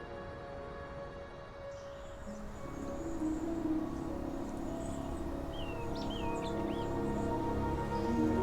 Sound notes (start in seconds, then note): 2.3 birds chirping; 2.6 light music continues